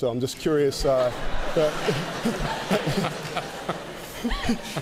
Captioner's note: laughter